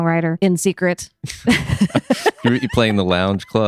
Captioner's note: laughing